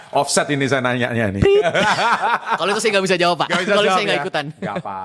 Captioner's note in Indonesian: tertawa